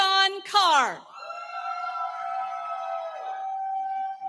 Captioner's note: cheering